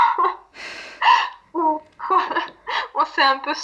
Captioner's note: laughs